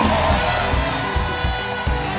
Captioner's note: applause